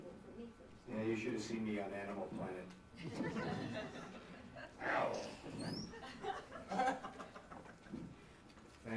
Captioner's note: laughter